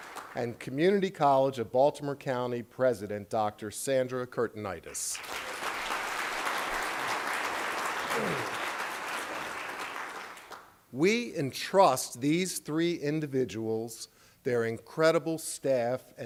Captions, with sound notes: And Community College of Baltimore County President, Dr. Sandra Kurtinitis. ( applause ) We entrust these three individuals, their incredible staff,